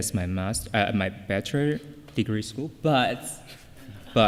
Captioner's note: laughter